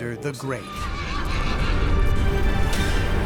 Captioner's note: horse whinnying